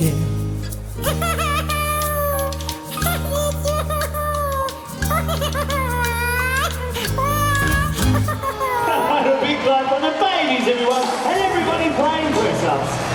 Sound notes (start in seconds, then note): 1.0 giggles; 5.1 cries